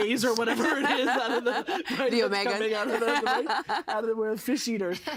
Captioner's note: laughing